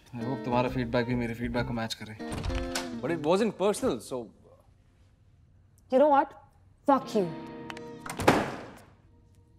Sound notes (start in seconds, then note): 2.2 door opens; 8.0 door closes